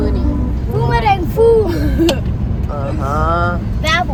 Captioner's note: speaking German; laugh; speaking German